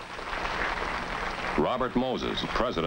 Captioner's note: audience clapping